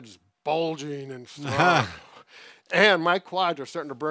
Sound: laughs

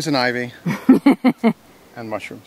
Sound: laughs

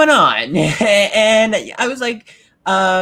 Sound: laughs

